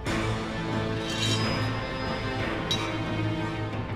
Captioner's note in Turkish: Müzik - Gerilim; Kılıç sesi; Müzik - Gerilim